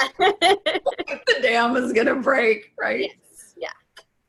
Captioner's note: laughing; voice muffled